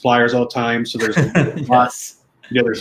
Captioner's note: laughing